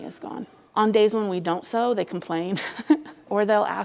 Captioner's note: laughs